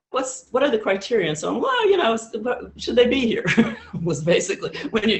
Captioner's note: laughs